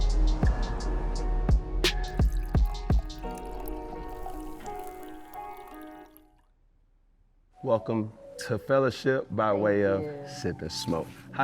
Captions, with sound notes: (wind blowing) (water falling) Welcome to fellowship by way of Sip n Smoke.